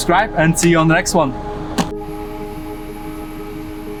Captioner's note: hand taps